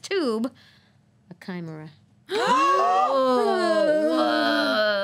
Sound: group gasping

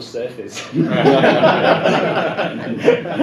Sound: laughter

